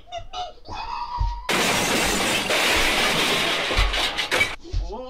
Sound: car Crashing Sound Effect

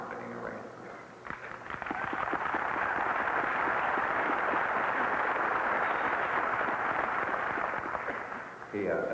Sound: cheering

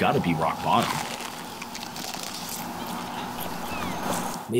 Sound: crunching

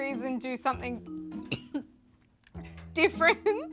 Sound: cough

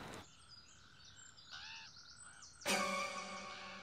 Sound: birds chirping; suspenseful music

